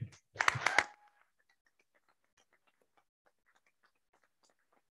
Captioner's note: board applauds